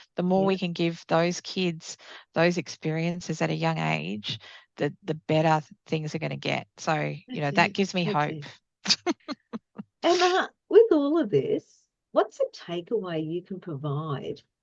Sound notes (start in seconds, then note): 8.9 laughs